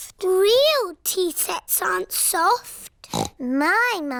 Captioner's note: snorts